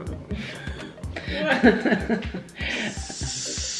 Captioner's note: laughing